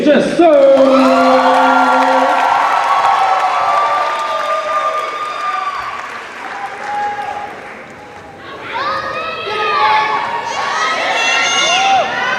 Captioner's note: cheers and applause